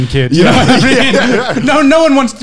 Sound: laughing loudly

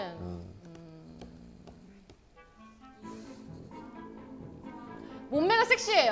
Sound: silence

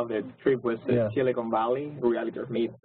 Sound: laugh

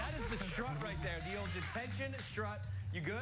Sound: cheers and applause

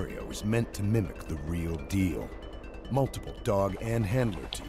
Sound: voiceover

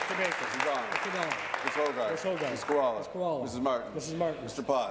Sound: applause

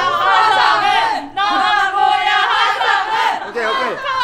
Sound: fan chant

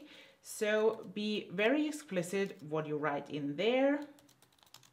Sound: typing

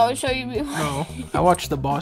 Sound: laughs

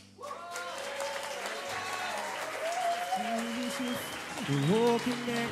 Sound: audience cheering

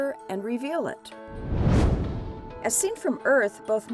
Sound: whoosh

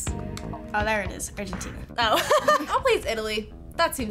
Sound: laughs

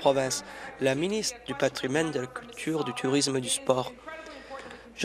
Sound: applause

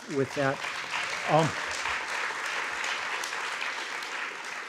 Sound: audience applauds

